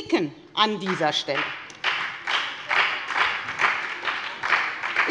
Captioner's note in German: Beifall bei der FDP und der SPD